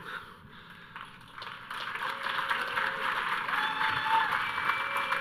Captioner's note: audience cheering